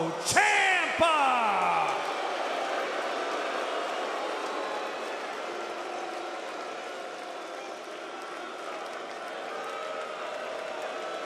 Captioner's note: crowd cheering